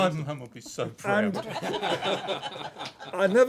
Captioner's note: laughter